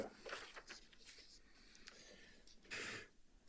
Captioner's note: paper rustling